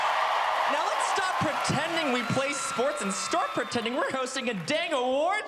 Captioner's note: cheers and applause